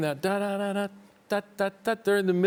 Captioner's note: humming